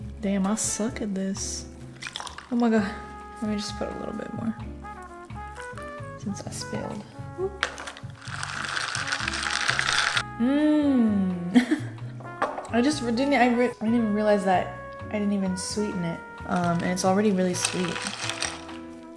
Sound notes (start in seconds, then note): 11.5 laughs